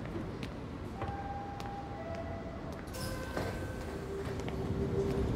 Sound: subway door chime

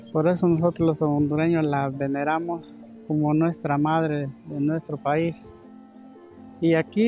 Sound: continues speaking in Spanish

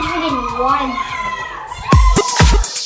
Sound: cheering; upbeat music

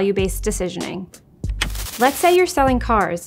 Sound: TV remote clicks

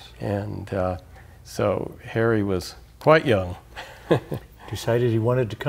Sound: laughs

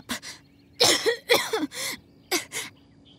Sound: cough

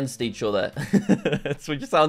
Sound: laughs

